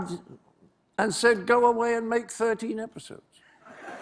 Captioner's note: laughter